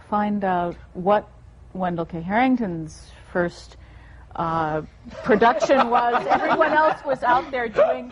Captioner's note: laughter